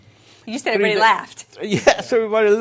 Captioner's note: chuckling